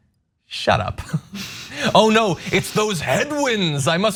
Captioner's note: laugh